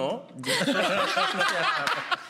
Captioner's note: laughs